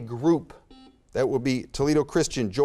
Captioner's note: buzzer beeps